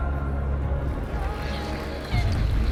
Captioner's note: sobbing